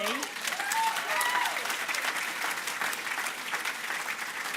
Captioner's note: cheering, applause